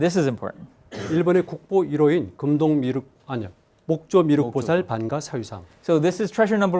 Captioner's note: speaking in Korean